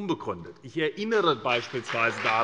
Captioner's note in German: Beifall bei Abgeordneten der SPD und bei der FDP